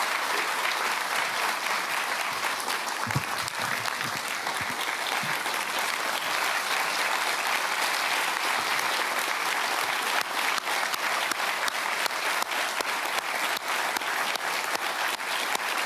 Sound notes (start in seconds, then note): 2.3 applause